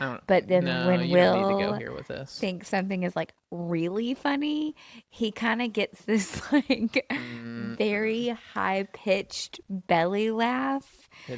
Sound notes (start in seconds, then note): 6.8 laughs